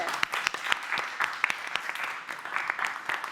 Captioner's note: applause